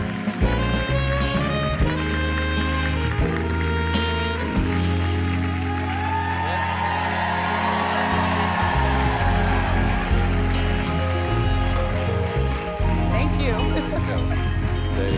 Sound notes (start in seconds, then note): 0.1 applause; 8.2 cheering